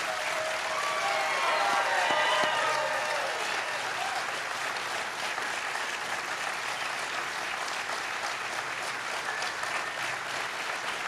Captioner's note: cheers and applause